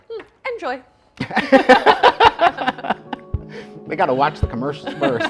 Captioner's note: both laughs